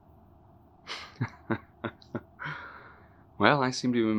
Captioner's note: Ludlow laughs